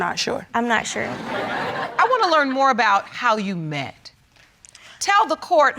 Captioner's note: audience laughing